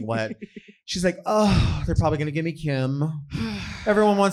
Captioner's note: sighs